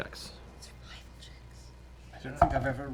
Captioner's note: whispering